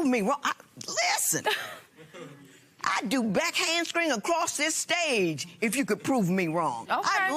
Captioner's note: laughs